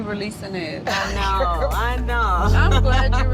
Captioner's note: people laughing